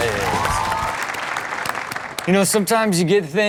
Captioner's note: audience applauds